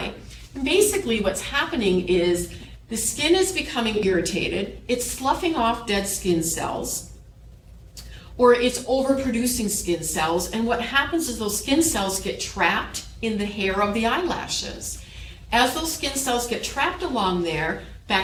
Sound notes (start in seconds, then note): none